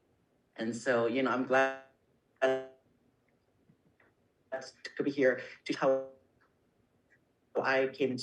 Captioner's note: brief connection issue